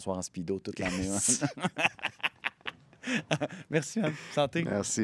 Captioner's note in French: rires